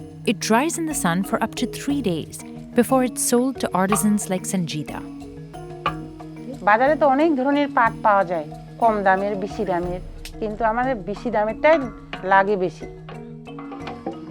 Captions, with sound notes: It dries in the sun for up to three days before it's sold to artisans like Sanjita. (speaking foreign language)